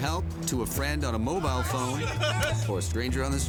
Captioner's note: laughing